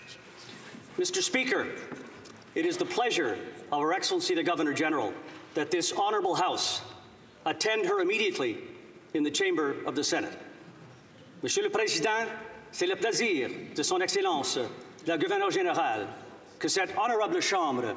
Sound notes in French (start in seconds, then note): 5.9 voix de l'interprète